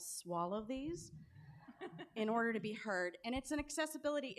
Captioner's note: laughter